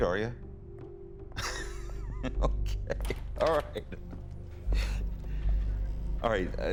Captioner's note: laughs